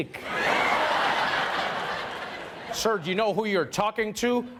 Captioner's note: laughter